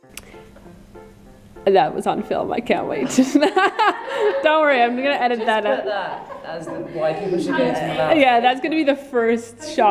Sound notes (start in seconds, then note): 3.0 laughs